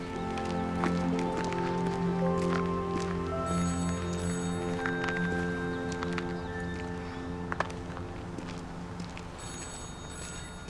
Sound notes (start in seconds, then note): 3.5 phone ringing